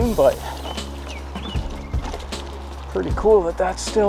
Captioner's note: birds chirping